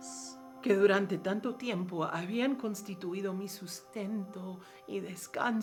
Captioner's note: speaking in foreign language